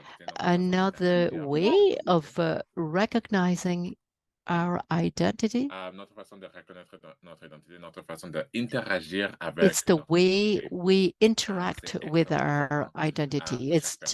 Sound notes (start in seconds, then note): 9.1 french